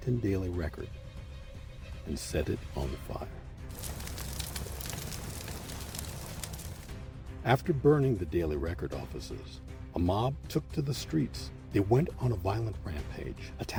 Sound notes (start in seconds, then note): 3.6 sound of flames